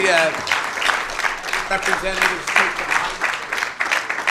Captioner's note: applause